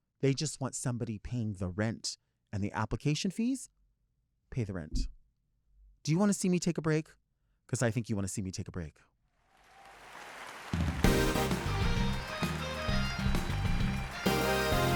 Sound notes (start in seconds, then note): 9.6 audience cheering and clapping; 10.9 upbeat music